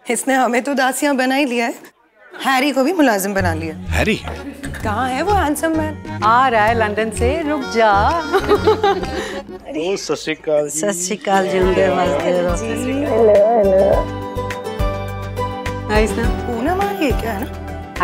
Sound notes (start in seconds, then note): 7.7 laughing